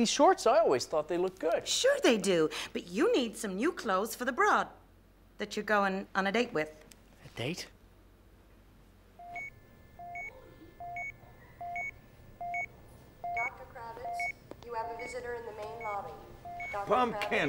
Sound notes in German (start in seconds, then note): 9.2 Maschinenton